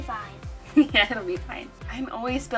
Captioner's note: chuckles